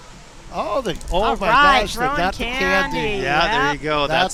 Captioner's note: horn honking